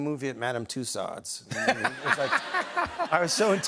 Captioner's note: laughs